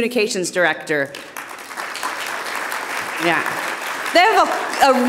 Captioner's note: audience applauding